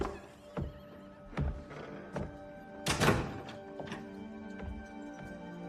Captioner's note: door opens, closes